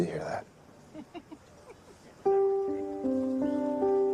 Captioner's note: laughing